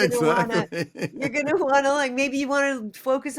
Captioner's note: laughter